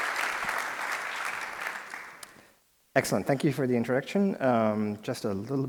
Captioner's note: applause